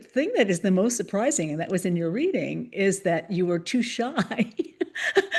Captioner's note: laughs